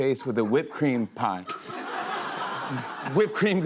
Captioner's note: laughter